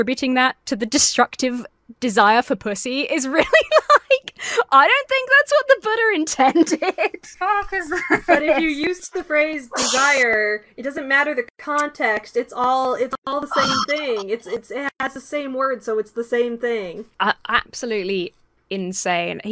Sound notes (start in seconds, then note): 3.3 laughs